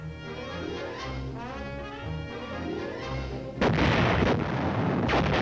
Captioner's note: explosions